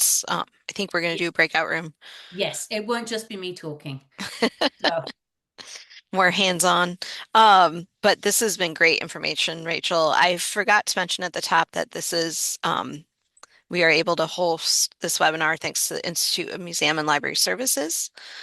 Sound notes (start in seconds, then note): 4.2 laughter